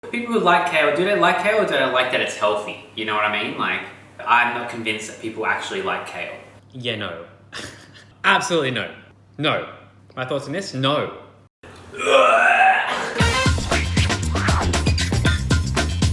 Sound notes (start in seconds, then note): 11.9 wretches; 13.2 upbeat music